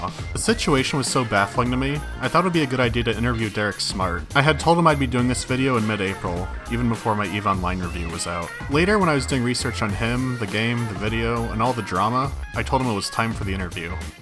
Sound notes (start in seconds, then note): none